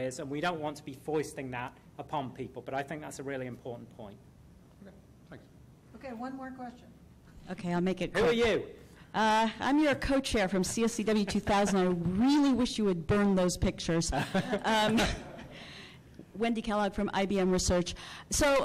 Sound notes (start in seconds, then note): 5.4 voiceover; 9.8 voiceover; 14.1 laughter